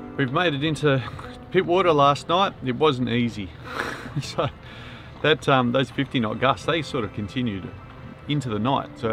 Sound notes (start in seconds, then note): 3.7 laughs